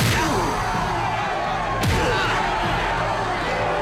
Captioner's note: crowd cheers